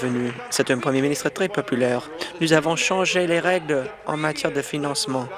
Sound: applause

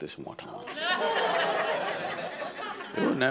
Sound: audience laughs

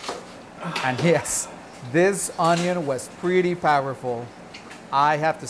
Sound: groans

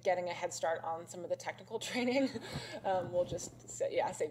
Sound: laughs

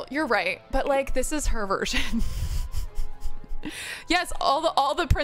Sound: laughs

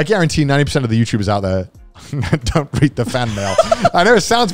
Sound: laughs

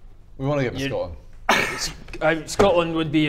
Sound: cynical laugh

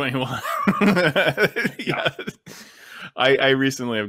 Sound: he laughs

